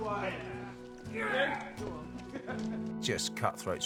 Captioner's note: snatchers grunting and yelling